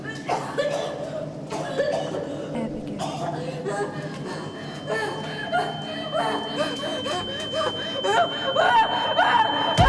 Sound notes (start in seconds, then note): 0.1 Abby pants and coughs; 4.5 high pitched tone; 6.3 Abby pants and shouts